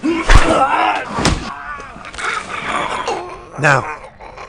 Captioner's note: thudding blow